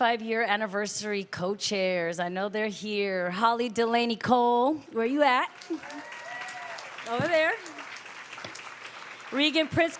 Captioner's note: applause